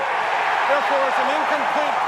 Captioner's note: cheering